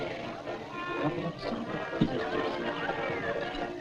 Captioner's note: whispers